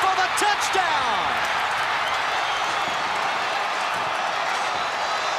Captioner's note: cheering